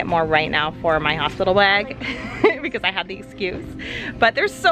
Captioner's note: laughs